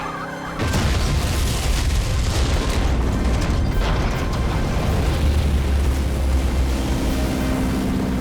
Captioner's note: explosion